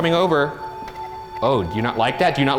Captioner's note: REM-POD beeps